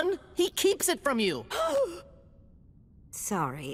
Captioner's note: gasps